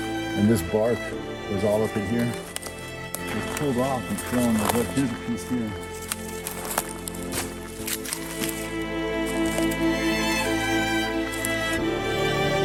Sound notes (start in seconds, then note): 3.7 speaker speaking faintly; 8.9 mysterious music